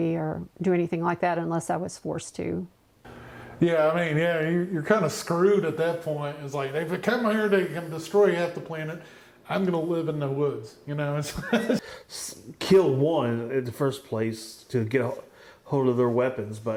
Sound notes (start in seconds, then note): 11.2 chuckles